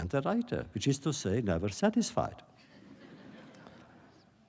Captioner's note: laughter